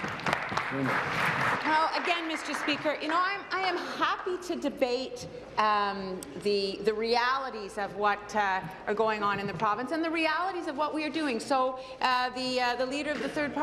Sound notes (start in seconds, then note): 3.2 applause